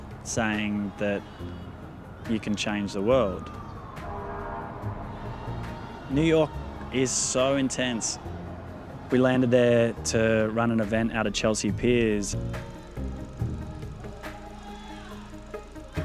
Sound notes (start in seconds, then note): 4.4 traffic humming; 12.7 gentle upbeat music